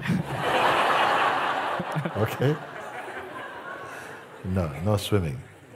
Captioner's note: Lachen